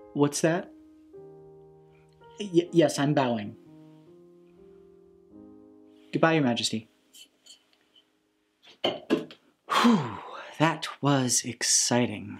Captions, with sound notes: What's that? Yes. I'm bowing. Goodbye, your Majesty. (tin can phone clanks) (sigh) That was exciting.